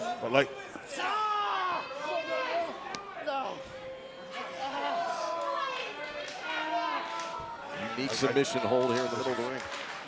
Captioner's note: crowd chatter